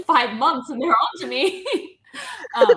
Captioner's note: laughing